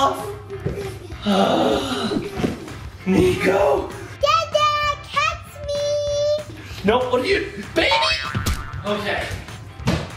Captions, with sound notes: (Dad exclaims) Niko? - Dada, catch me. - Nope, what do you, baby? Okay.